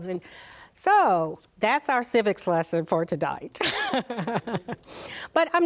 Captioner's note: laughs